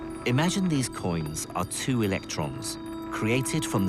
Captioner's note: voiceover